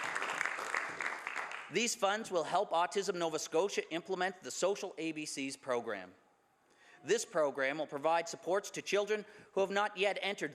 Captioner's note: some Applause